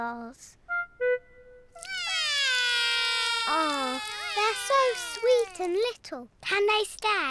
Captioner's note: both whinny; both wail